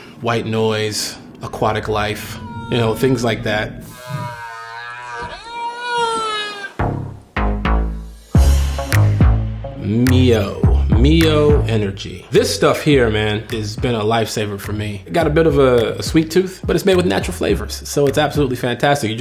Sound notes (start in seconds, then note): 4.3 whales singing; 7.4 hip hop music